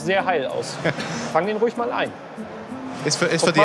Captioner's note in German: Gelächter; lachend